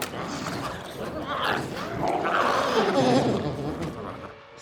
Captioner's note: glowzies growling